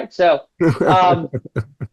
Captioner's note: laughing